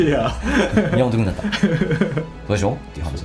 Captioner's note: laughs